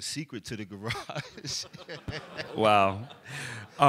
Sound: laughter

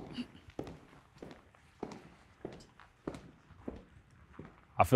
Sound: footsteps clicking

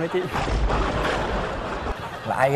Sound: laughs

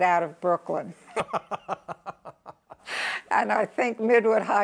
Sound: laughs

